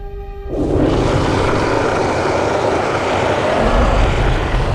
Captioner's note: roaring